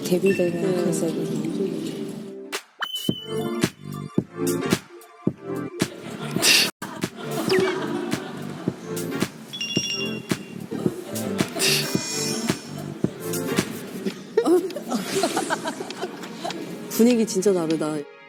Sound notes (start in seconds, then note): 6.8 ends laughing